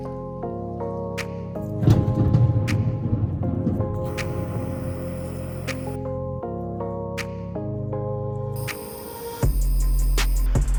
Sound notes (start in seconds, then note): 1.8 the roll of thunder